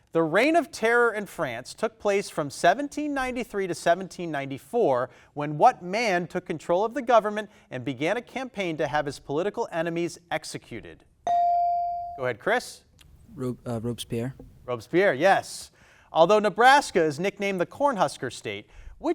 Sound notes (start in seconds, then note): 11.3 buzzer dings